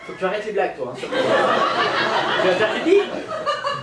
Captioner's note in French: rires public